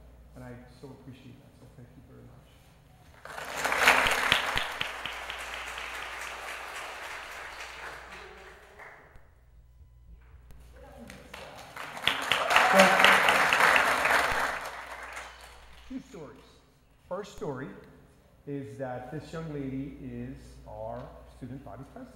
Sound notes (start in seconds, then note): 3.1 applause; 10.8 applause